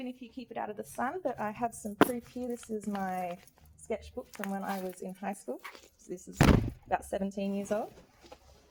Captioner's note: thunk